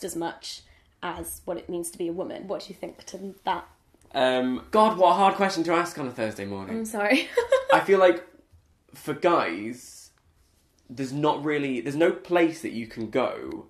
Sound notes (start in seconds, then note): 7.3 laughs